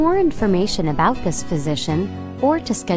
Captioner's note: soft, gentle music; voiceover